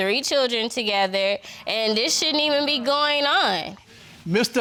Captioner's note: spectators exclaim